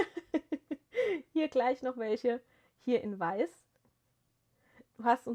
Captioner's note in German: gelächter